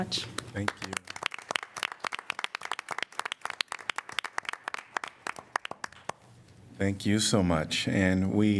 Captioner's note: applause